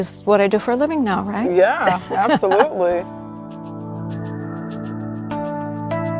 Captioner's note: laughing